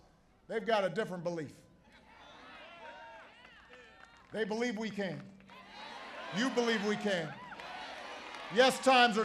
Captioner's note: applause